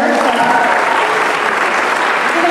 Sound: applause

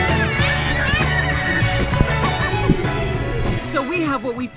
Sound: yelling

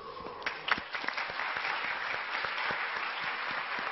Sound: clapping

